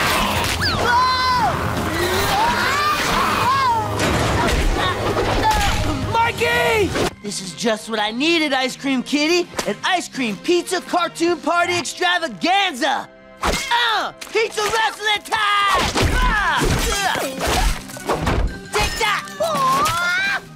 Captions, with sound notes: Whoa! [screaming] [grunting] Mikey! This is just what I needed, Ice Cream Kitty. An ice cream/pizza/cartoon party extravaganza! Uh! Pizza wrestling time! [grunting, thudding] Take that! Wah!